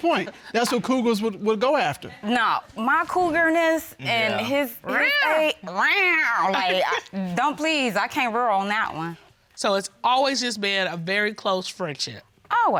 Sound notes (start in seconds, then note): 5.2 judge mimics cougars; 5.2 mimics cougars